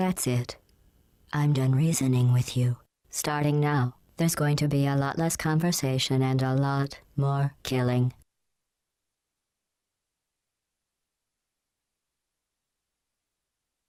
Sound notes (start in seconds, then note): none